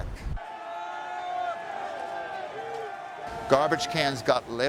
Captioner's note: people shouting